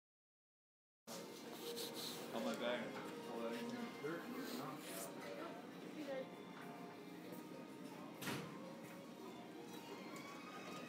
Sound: sound of store ambience

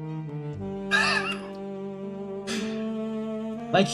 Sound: wheezing laugh

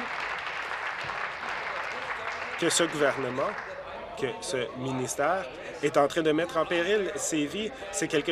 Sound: applause

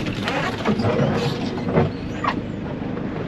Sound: sound of branches scraping on roof

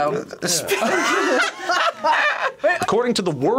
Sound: both laugh

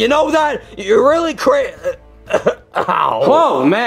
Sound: coughs

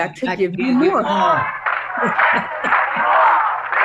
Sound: protesters clapping; chuckles

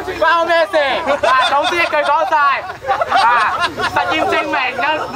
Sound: yelling in foreign language; laughs

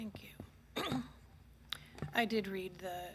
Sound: clears throat

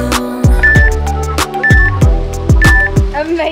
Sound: beeping

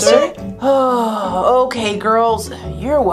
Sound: Professor sighing

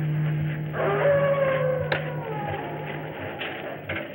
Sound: wolf howls

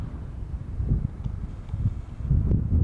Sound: wind rumbling

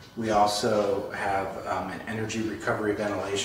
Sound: none

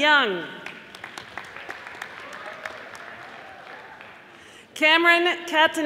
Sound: audience applauding

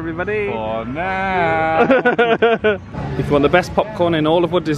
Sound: laughs

